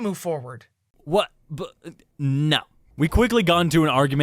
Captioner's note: stammers